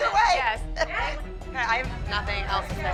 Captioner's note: chuckles